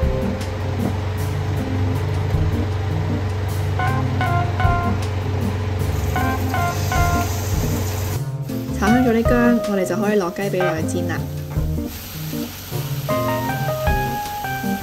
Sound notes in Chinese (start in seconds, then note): 11.2 滋！滋滋！